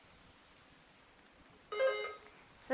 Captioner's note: bell dinging